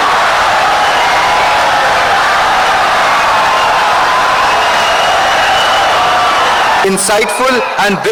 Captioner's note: wild applause and cheering for 17 seconds